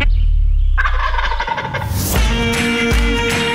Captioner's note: turkey gobbling; upbeat country music